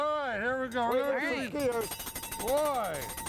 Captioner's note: bell ringing